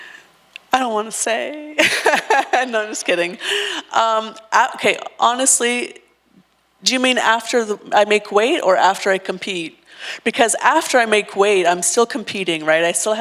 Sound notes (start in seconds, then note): 1.8 laughs